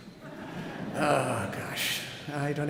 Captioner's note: audience laughing